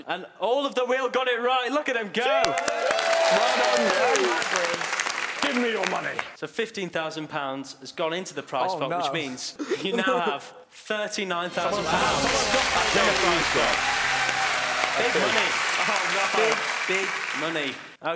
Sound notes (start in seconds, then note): 2.2 cheering; 11.5 dramatic music; 11.6 applauding